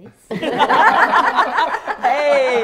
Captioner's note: all laughing